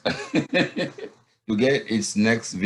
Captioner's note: giggles